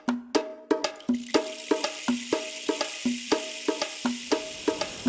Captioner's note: upbeat drum music; water streaming